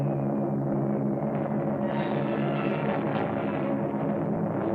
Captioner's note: bombs whistling